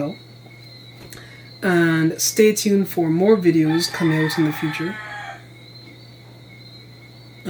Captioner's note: rooster crows